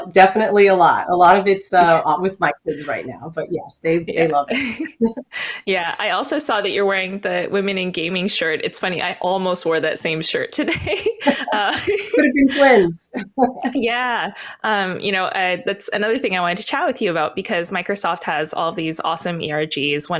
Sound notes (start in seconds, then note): 10.6 laughter